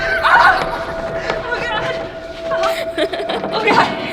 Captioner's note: screaming